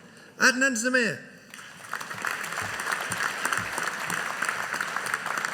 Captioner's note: audience applauding